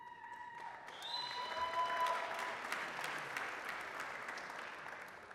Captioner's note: applause, cheering